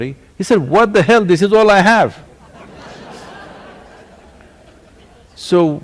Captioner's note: laughter